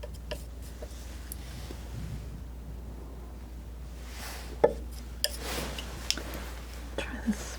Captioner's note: tapping